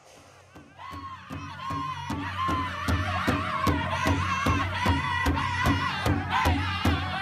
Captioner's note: drums beating; people chanting